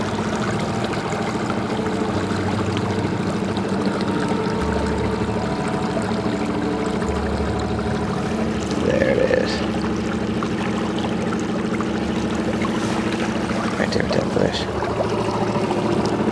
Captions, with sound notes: (water sloshing) (somber synth music) There it is. Right there at that bush.